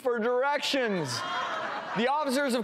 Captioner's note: laughter